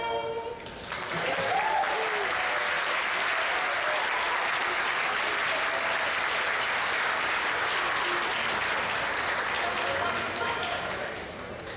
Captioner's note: audience applause